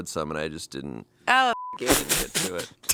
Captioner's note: beep; laughs